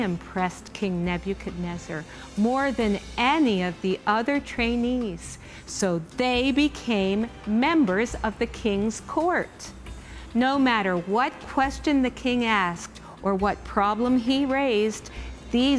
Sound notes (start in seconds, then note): none